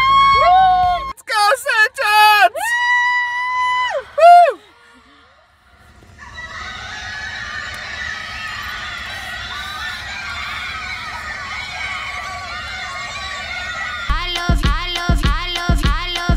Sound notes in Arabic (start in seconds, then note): 0.2 هتاف متحمس; 4.1 كل الهتاف والصراخ